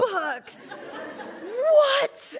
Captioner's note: laughs